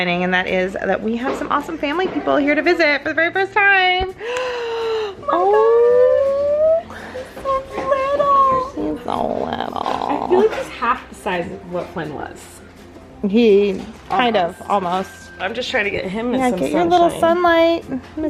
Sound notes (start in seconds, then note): 4.2 gasping